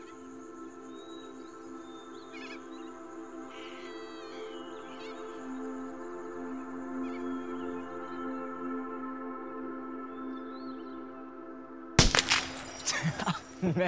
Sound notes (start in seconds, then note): 12.0 gun shooting; 12.0 glass exploding; 12.8 laughter; 13.0 placid music